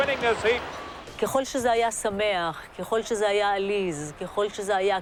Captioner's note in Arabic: الصوت المنطوق باللغة العبرية